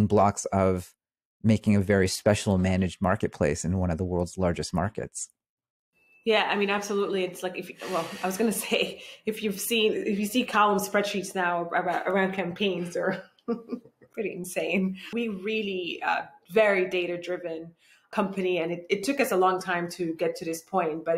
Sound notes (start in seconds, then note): 13.4 chuckles